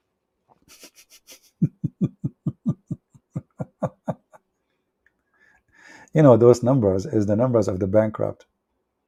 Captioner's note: Ketawa